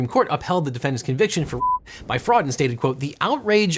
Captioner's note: beep